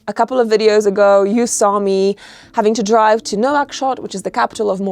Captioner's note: none